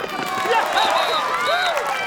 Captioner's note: all cheering and applauding